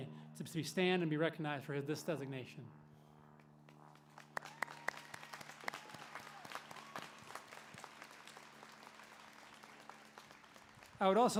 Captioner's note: applause